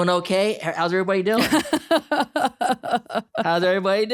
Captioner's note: laughing